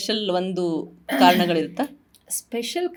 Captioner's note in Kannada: ಗಂಟಲು ಸರಿಮಾಡಿಕೊಳ್ಳುವಿಕೆ